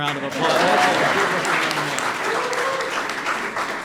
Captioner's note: applause